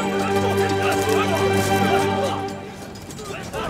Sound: people fighting

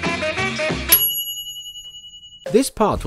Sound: ding

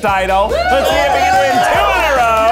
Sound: all cheering

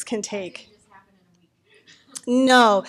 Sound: voiceover; laughing

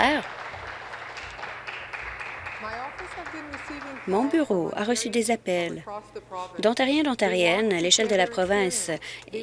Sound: applause

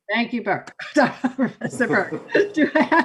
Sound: laughing

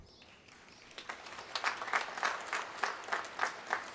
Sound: applause

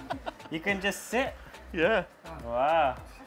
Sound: laughs

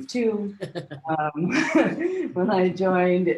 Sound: laughing

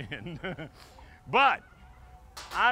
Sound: laughing

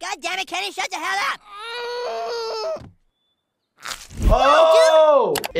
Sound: Kenny groans

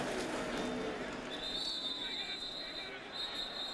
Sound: whistle

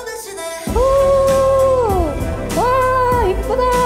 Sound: shout

